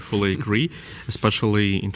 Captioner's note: laughs